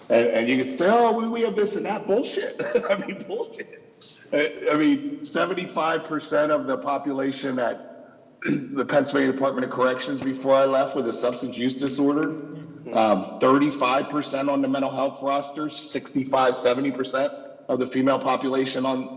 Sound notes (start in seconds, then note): 2.4 laughing